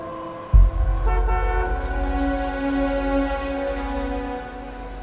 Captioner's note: horns honking; soft dramatic music